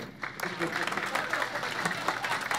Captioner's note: ironic applause